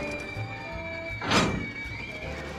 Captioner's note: riders screaming